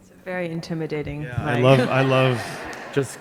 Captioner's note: audience laughing